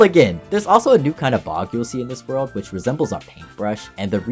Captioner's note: none